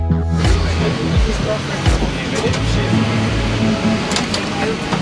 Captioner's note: background chatting